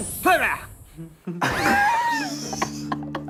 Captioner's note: laughing